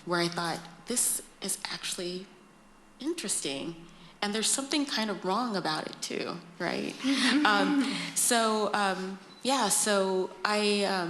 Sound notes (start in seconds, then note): 7.0 laughter